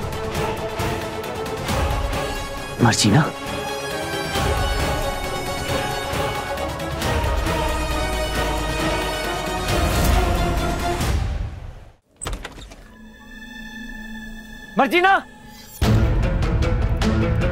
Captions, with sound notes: Marjina? [door creaks] Marjina! [suspenseful music plays]